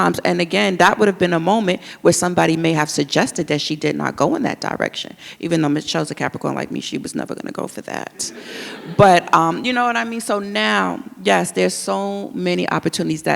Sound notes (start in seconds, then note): 8.2 audience laughs